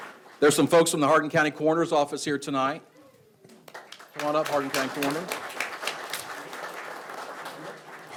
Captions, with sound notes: There's some folks from the Hardin County Coroner's Office here tonight. (audience applauds) Come on up, Hardin County Coroners.